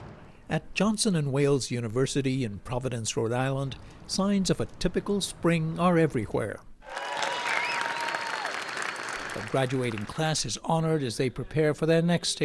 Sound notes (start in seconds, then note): 6.8 cheering